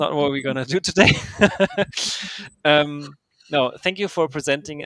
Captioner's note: laughs